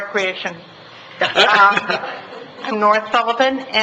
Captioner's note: laughing